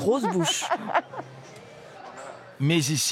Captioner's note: giggling